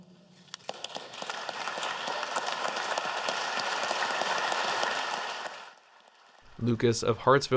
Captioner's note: applause